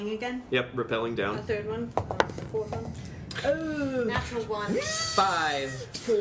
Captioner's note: dice roll